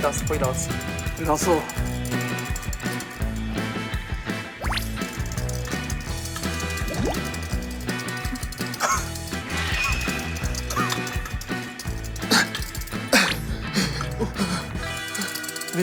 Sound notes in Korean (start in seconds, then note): 6.9 꼬르륵